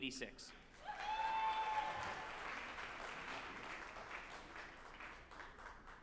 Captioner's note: group applauding and cheering